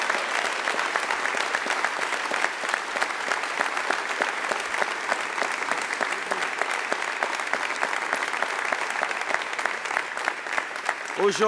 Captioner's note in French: Applaudissements et acclamations